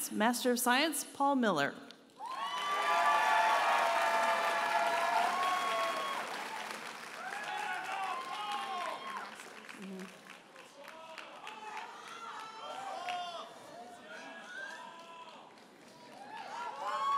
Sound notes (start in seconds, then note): 2.7 audience cheers and applauds; 11.9 audience members holler and cheer